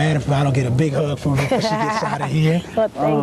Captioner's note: laugh